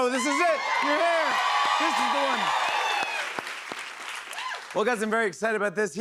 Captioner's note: cheers and applause